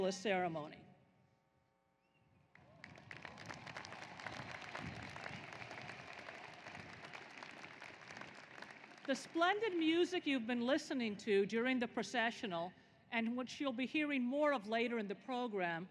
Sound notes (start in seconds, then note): 6.5 applause